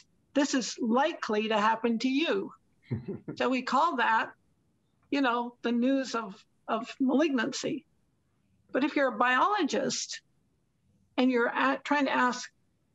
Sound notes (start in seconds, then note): 2.9 laughter